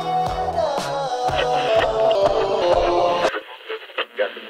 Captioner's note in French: bug sonore